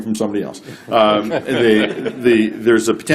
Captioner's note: laughter